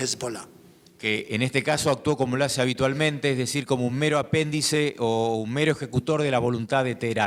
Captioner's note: speaking in foreign language